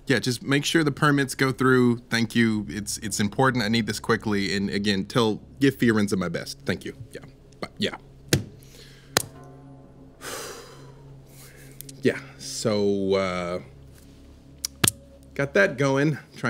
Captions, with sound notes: Yeah, just make sure the permits go through. Thank you. It's important. I need this quickly. And again, tell Give Firenze my best. Thank you. Yeah, bye. Yeah. (sighs) Yeah, so, uh. Got that going.